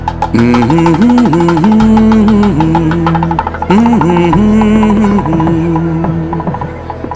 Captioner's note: hums a romantic song from the movie 'Nammal'